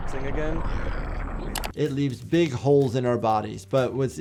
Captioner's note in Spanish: clic